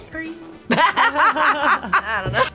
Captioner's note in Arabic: تضحك